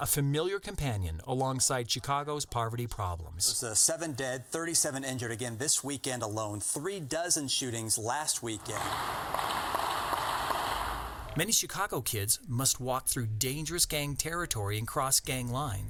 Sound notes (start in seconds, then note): 8.6 sounds of gunshots